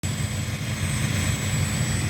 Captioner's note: motor whirring